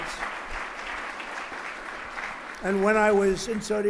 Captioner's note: applause